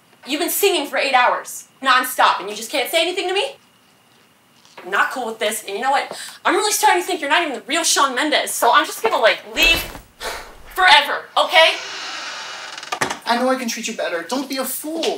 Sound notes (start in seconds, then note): 11.6 door creaks shut